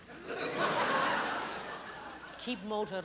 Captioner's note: laughter